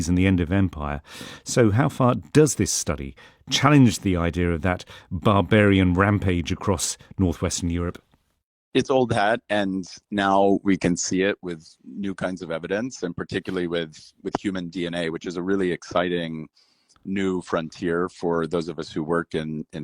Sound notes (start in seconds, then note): none